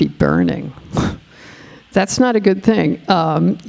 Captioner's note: scoffing